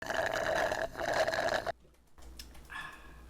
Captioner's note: slurping